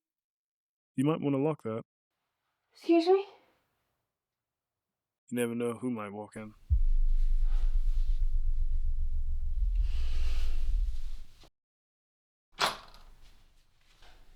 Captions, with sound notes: You might wanna lock that. Excuse me? Never know who might walk in. (Door locking)